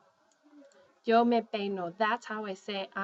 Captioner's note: speaking spanish